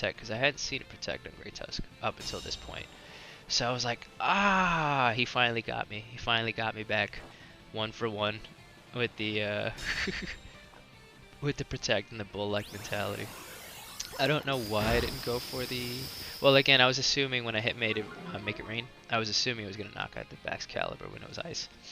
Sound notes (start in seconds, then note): 9.8 laughs